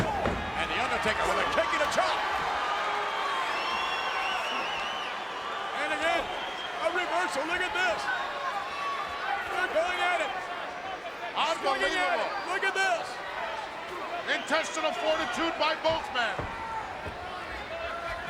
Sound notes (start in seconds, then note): 2.3 audience cheers